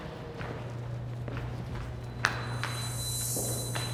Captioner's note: footsteps